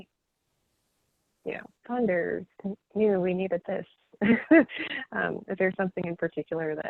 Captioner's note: laughing